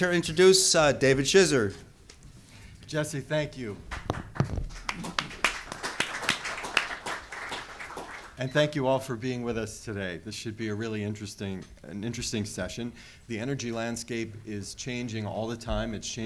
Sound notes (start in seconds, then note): 3.8 applause